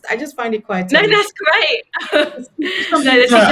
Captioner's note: laughs